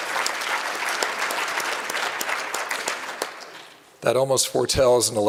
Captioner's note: applause